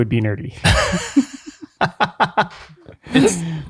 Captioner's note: laughing